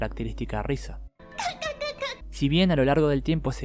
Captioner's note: sound of a laughing goddess